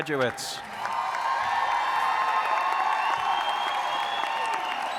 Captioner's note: audience cheers and applauds